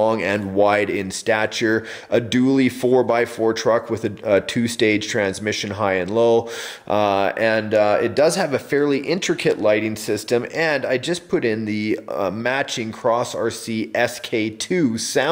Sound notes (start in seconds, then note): none